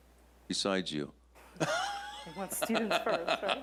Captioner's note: chuckles